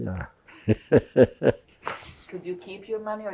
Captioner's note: laughing